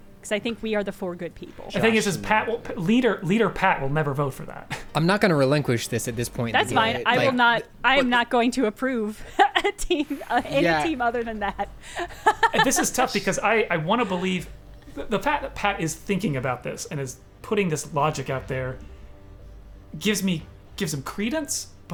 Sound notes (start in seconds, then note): 5.0 pat; 12.2 laughing